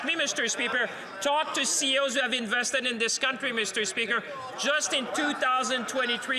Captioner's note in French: voix de l'interprète